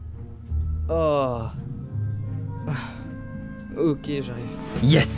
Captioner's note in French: soupir